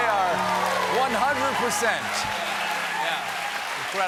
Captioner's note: cheers and applause; piano riff